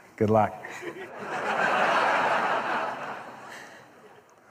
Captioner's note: laughter